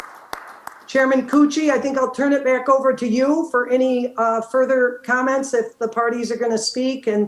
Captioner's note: applause